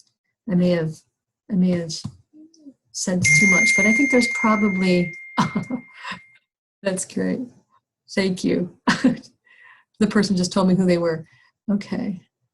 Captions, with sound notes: I may have - I may have said too much but I think there's probably **phone dings** **chuckles** That's great, thank you. The person just told me who they were. Okay